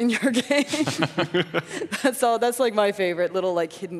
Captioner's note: laughing; laughs